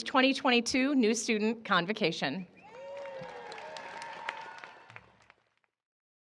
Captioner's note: cheering and applause